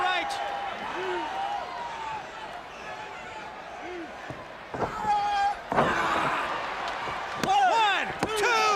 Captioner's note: crowd cheering